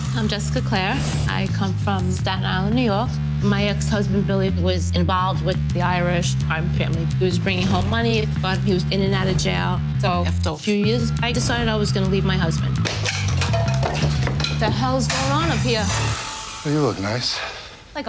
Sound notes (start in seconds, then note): 12.8 crashing